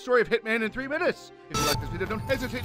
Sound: buzz sound

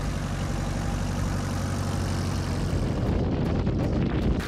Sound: engines rumbling

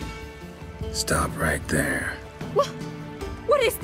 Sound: in a low growl

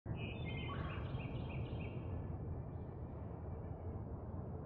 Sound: birds twittering

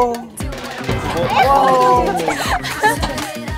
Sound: thud

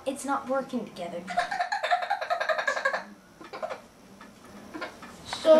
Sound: giggling

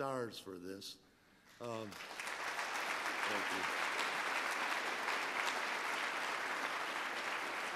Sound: applause

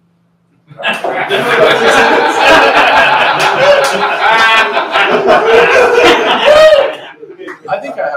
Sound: laughter

